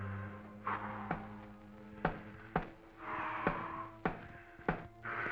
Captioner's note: scissors tapping